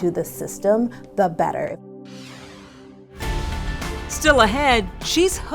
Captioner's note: screen whooshing